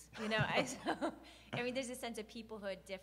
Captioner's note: laughs